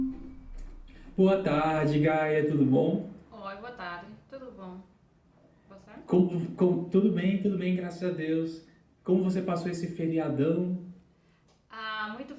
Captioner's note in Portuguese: Conversa em português bem avançado